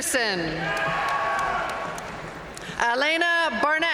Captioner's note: audience cheering and applauding